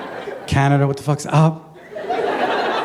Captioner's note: laughter